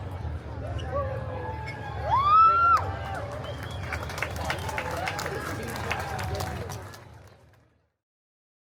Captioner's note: guests cheering and applauding